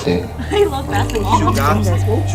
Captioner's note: sip